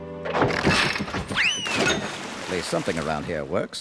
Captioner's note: rattling; splashing